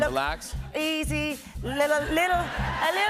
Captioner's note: laughter